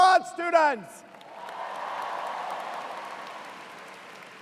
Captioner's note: cheers and applause